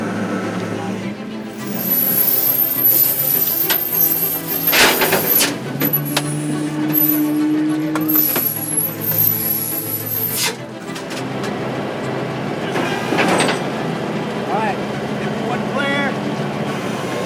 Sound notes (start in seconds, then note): 1.3 exciting music continues; 1.4 metal scraping